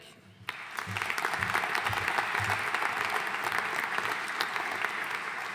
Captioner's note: audience applauding